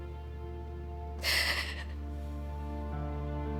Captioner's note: sobs